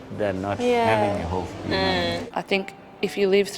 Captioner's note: voiceover